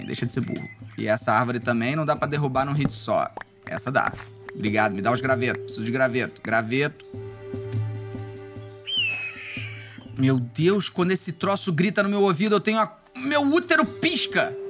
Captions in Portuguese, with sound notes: Deixa de ser burro. E essa árvore também não dá pra derrubar num hit só. Essa dá. Brigado, me dá os graveto. Os graveto, graveto. [SOM DE AVES] Meu Deus, quando esse troço grita no meu ouvido, eu tenho uma... meu útero pisca!